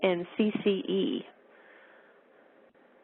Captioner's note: pause